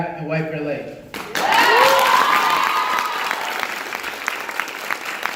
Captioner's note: crowd cheers and applauds